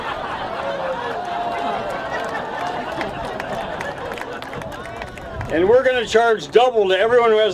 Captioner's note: laughter